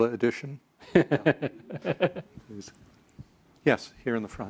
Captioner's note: laugh